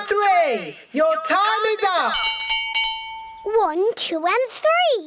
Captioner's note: rings bell